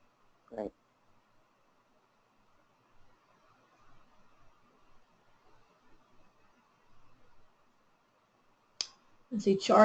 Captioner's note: silence